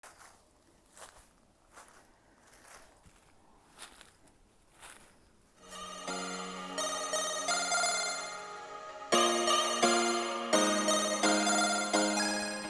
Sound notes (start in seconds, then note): 0.5 leaves crunching; 5.6 upbeat music